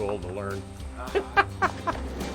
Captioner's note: laughs; rumble of train